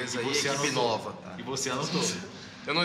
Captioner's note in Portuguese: risos